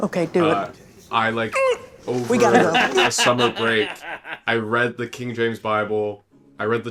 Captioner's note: laughter